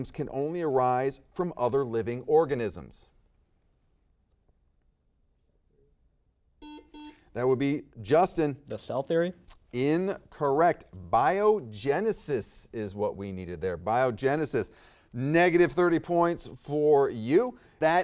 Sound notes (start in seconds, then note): 6.6 buzzer beeps